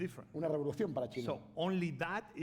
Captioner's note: speaking spanish